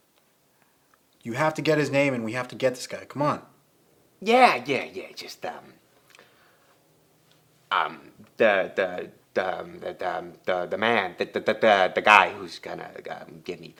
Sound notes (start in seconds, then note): 7.2 detective stammers